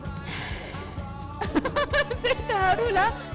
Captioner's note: laugh